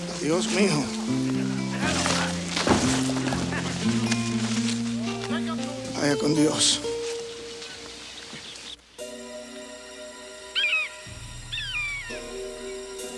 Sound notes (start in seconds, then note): 2.5 body thumps; 5.8 Crecencio speaks Spanish; 8.9 suspenseful music; 11.5 vulture screams